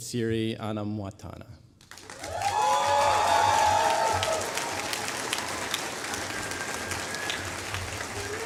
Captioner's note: applause